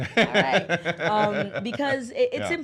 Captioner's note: laughs